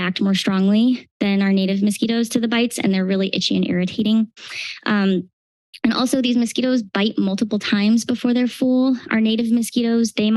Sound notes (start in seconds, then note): none